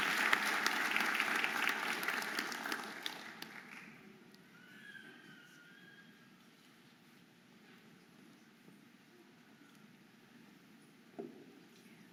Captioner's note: audience applauding and cheering